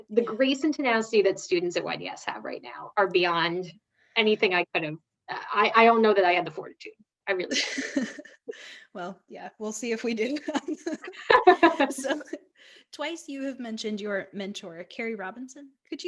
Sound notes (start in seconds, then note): 7.4 laughs; 10.4 both laughing